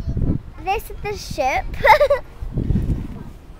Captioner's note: laughs